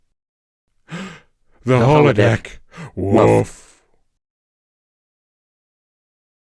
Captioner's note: gasp